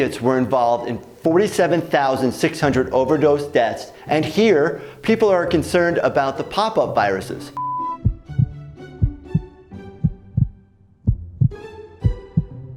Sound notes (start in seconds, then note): 7.6 beep; 8.6 heart beating